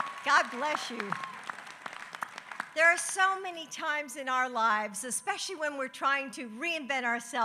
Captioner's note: applause